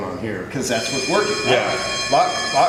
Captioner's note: loud bell sound in background